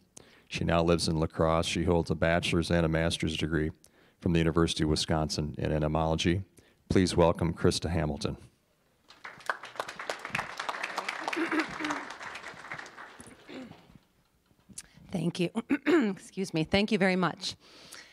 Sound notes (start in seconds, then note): 9.0 applause